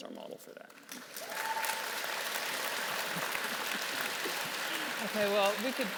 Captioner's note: audience clapping and cheering